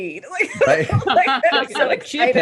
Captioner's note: laughter